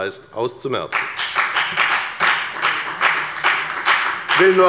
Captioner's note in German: Beifall bei der FDP